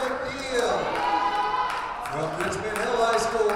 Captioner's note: audience cheers